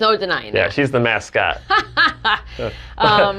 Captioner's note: laughs